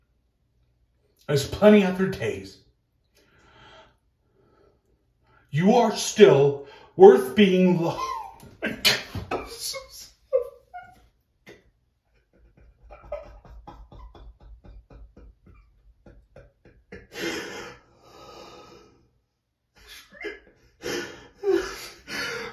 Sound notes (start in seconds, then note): 13.4 crying